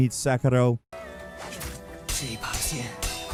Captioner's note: swords clanging; character speaking foreign language